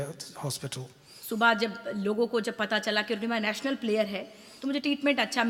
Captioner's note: speaks foreign language